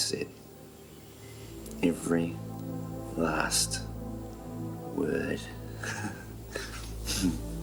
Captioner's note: laughs